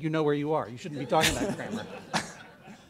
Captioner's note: laughter